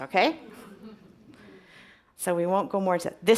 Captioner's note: audience chuckles